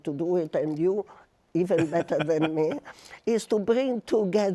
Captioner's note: laughs